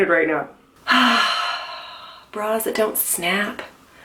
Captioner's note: sighs